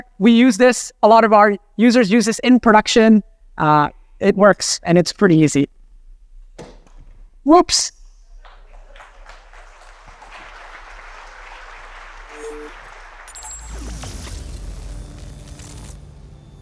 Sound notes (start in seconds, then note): 6.5 object falling on floor; 7.9 people clapping; 8.4 people laughing; 11.8 people clapping; 12.3 electronic beeping sounds